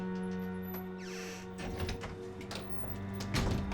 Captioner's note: door clicks; door creaks